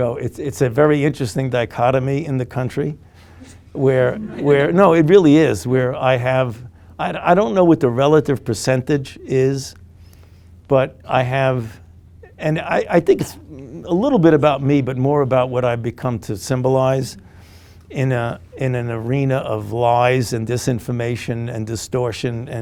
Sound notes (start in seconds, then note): 3.4 group giggling